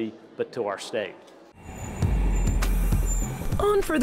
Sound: train braking

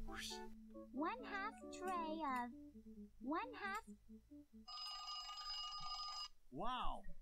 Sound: timer rings

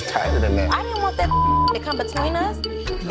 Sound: beep sound

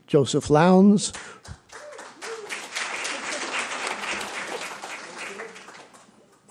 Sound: applause

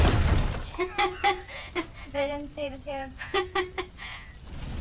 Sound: laughing

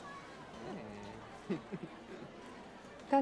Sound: Damian chuckles

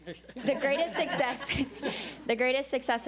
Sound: audience laughs

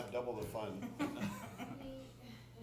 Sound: laughter

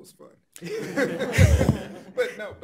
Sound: laughing

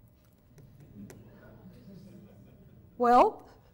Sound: laughter

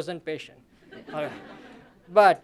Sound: laughter

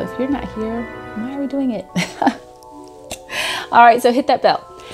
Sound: chuckles

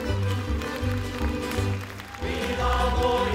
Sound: audience applauding; upbeat folk music; choir singing

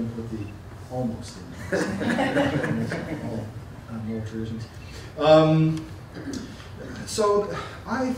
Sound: laughter

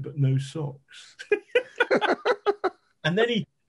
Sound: men laughing

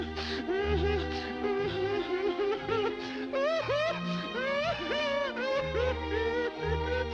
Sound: crying

